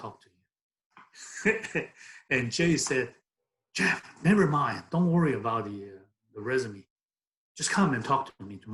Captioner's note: laughs